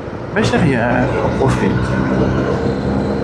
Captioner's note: engine